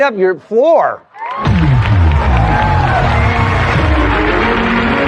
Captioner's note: cheering and applause